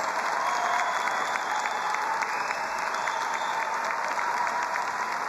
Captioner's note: all applauding and cheering